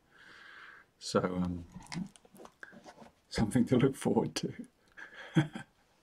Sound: chuckles

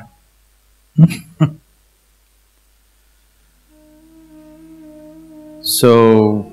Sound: laughs

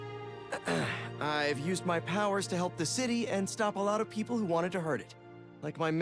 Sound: clears throat

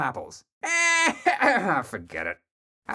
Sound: starts laughing, chokes

